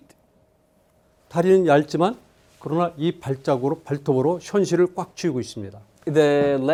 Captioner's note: speaking in Korean